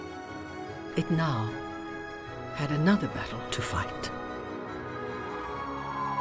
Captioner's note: ambulance siren